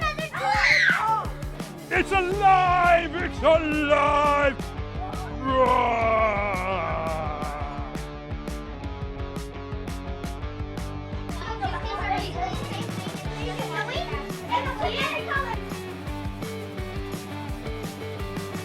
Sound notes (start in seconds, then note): 0.3 screaming; 5.2 groaning and screaming